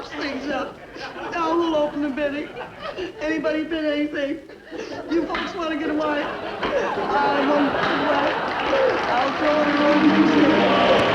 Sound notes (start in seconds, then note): 4.2 audience laughing; 7.6 clapping hand